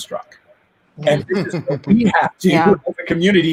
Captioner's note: laughing quietly